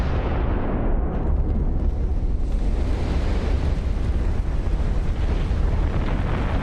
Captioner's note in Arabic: صوت انفجار